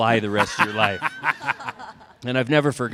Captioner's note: laughter